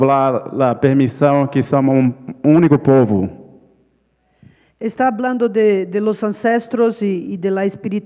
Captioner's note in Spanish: ponente habla en portugués